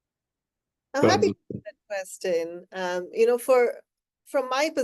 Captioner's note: faintly speaking